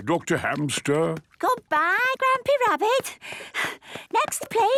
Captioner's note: panting